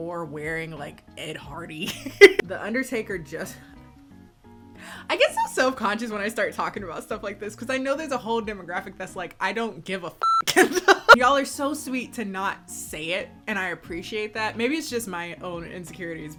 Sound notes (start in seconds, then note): 1.9 laughs; 10.2 beep; 10.5 laughs